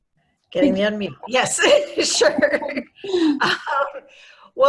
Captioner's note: laughing